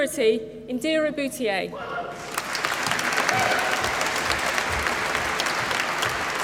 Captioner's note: applause